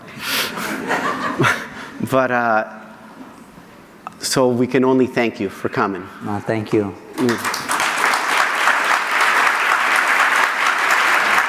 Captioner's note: audience laughter